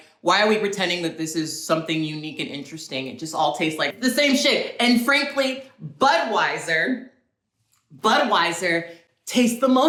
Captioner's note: none